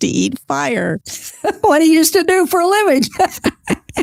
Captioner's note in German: Lacht